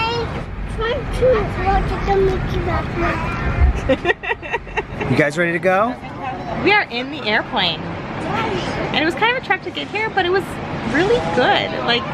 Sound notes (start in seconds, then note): 3.7 laughs